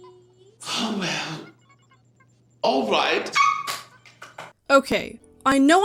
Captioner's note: happy squealing